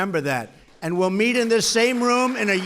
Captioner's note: applause